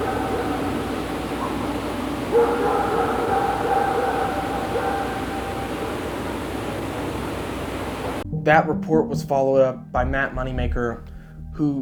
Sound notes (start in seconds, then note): 4.1 dogs barking continues